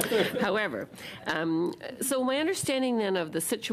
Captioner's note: laughter